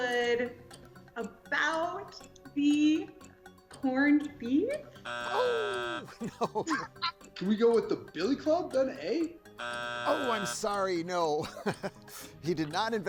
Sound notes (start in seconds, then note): 5.0 buzzer drones; 5.2 laughs; 5.2 chuckles; 9.5 buzzer drones; 11.3 chuckles